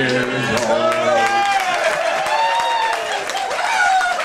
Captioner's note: guests applauding